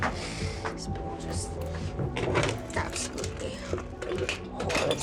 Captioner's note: muttering